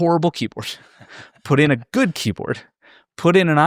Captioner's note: laughing